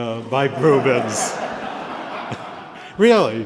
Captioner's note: laughter